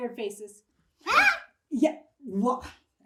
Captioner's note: boy shrieks